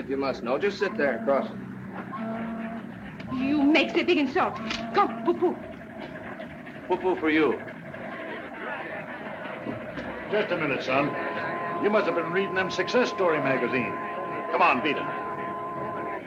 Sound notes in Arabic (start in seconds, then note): 8.3 الناس يتحادثون